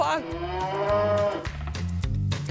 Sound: loud mooing

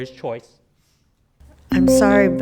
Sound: PA system beeping

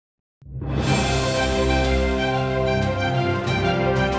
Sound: cinematic sound

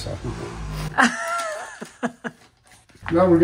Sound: laughing

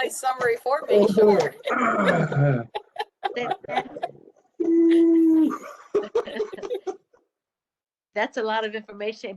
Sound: laughter

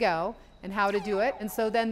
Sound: satellite bleeping

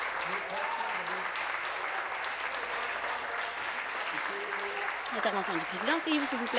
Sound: applause

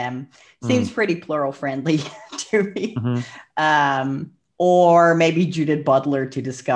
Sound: laughs

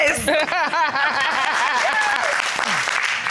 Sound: laughs

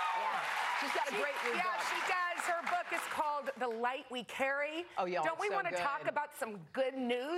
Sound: cheers and applause

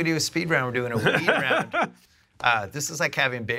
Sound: laughs

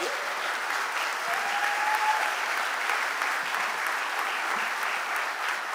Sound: audience applauding

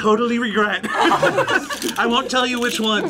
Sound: group laughs

